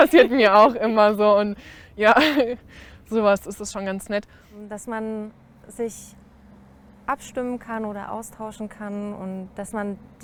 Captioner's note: laughter